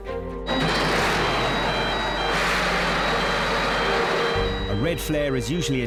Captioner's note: boat engine revving; siren blaring